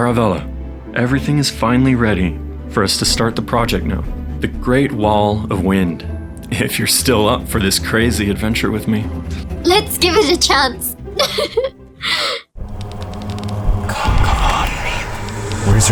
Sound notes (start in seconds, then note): 11.1 laughs; 12.6 ominous music